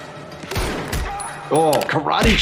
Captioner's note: gun firing